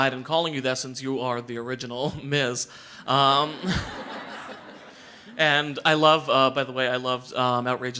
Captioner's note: audience laughter